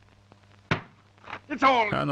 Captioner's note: banging the table